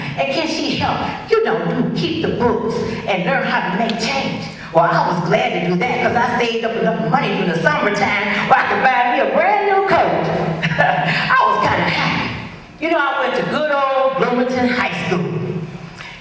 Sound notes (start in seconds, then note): 10.5 chuckles